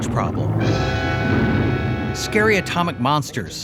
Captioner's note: horn blaring